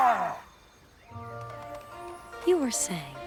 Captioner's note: roar